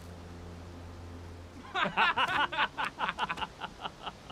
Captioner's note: men laugh